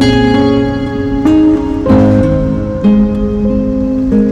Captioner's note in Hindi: none